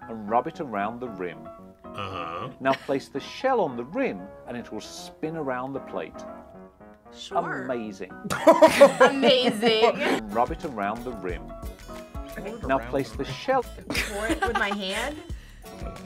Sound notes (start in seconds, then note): 2.0 laughs; 8.2 both laugh; 13.8 both laugh